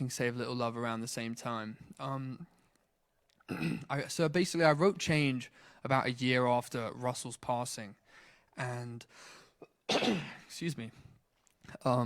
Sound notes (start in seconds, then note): 9.6 coughs